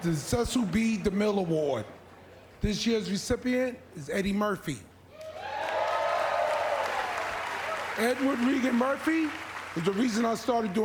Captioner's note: applause